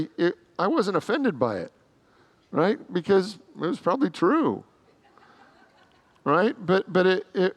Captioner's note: congregants laugh